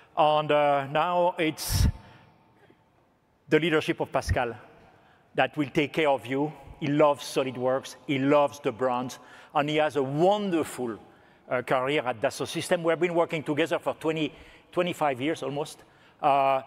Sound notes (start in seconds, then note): none